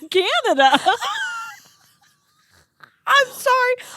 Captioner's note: girls laughing